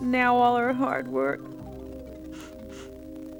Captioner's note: sobbing